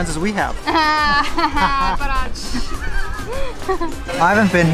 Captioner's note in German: Lachen